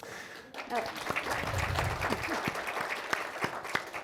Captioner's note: crowd clapping